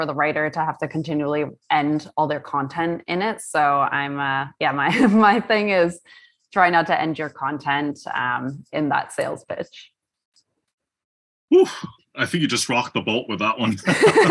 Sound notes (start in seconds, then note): 12.2 laugh